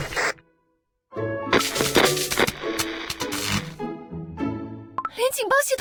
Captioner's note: static